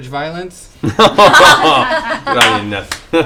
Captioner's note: laughter